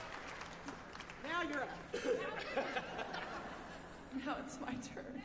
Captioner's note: applause